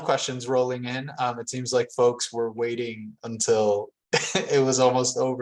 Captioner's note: chuckles